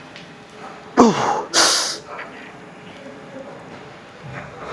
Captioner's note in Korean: 콧방귀